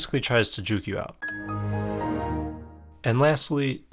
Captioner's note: windows shutdown sound